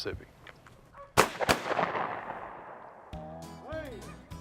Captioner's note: gun shots